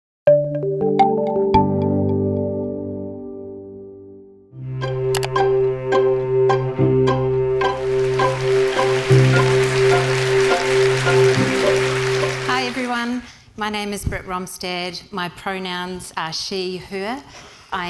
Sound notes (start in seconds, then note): 0.4 bright music; 4.7 upbeat music; 7.7 audience applauding